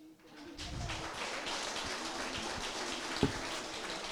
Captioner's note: applause